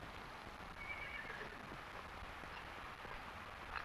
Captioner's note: horse neighing